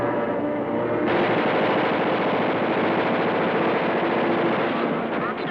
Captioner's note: gunfire blasting